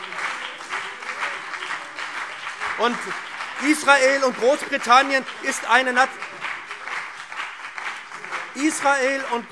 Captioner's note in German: Beifall BÜNDNIS 90/DIE GRÜNEN und CDU - Zurufe